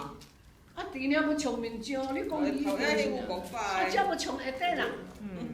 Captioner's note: speaking foreign language